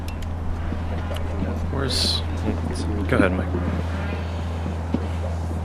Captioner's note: people speaking amongst themselves